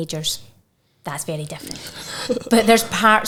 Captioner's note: chuckling